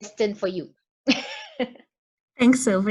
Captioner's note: laughs